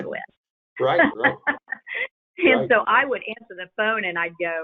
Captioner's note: laughs